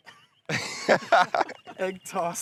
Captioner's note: laughing